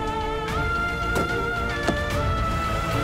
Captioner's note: car door closes